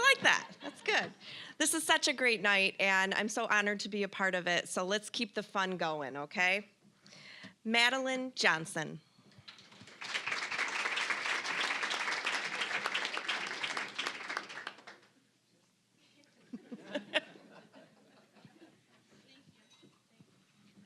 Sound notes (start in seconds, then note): 9.4 applause; 16.6 scattered laughing